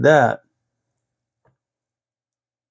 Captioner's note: silence